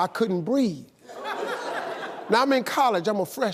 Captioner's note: audience laughing